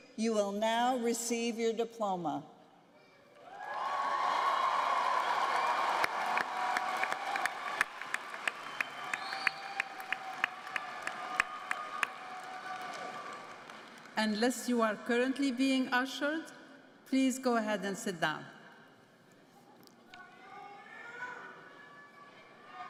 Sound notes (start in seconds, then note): 11.0 applause